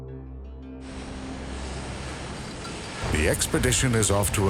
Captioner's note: splashing water